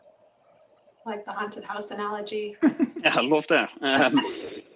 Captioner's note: laughs